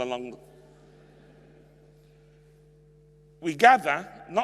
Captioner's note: audience laughs